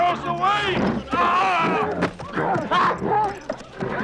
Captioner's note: guard shouts